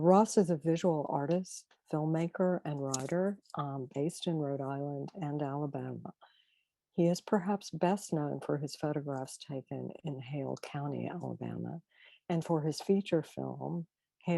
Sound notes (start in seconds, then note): none